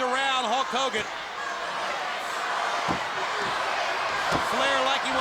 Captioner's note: crowd cheering